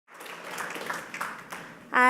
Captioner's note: applause